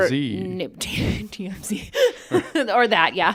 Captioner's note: laugh